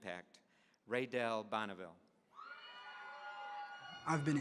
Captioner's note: audience cheering